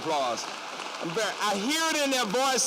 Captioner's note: applause